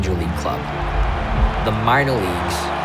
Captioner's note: audience cheering